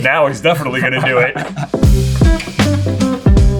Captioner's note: laughing; christmas music